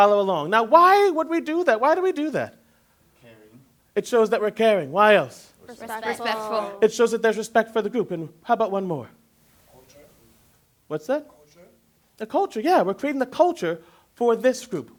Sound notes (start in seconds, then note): 11.7 quietly